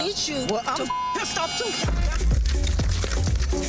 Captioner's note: beep; intense music